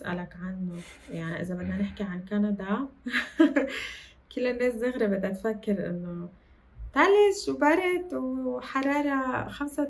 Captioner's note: laughs